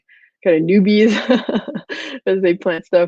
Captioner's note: laughing